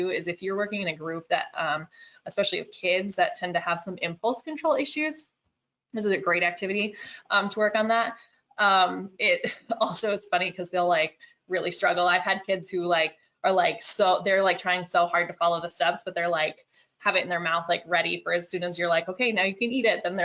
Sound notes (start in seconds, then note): 9.4 chuckles